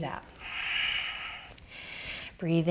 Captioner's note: exhaling